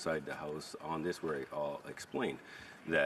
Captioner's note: speaking French